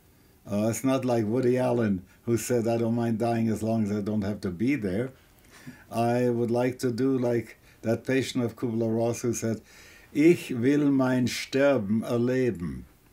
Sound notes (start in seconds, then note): 8.9 auf Deutsch